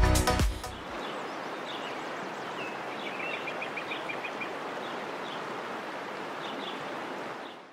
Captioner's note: birds singing